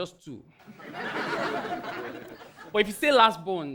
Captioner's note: audience laughing